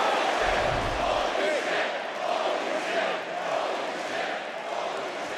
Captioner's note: audience cheering